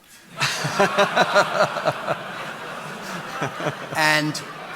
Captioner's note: audience laughing